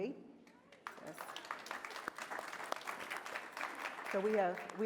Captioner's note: applause